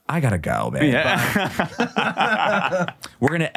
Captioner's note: laughing